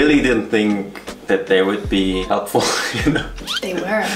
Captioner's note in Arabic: ضحكات مكتومة